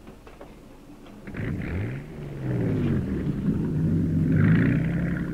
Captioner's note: boat engine rumbling